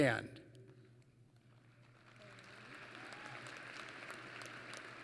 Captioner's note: applause